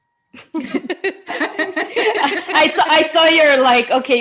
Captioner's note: laughing